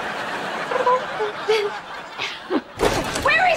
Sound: chuckles

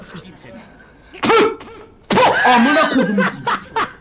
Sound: spits twice

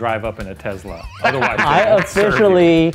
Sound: laughter

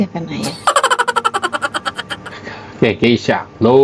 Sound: laughs

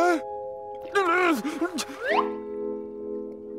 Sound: grunting

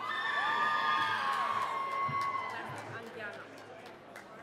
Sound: cheering

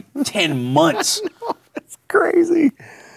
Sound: laughing

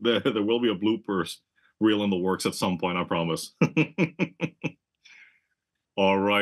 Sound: laugh

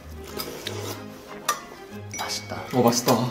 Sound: sipping; chewing

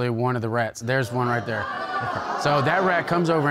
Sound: audience exclaiming

